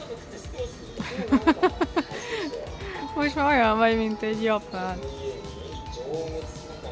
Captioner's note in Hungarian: Nevetés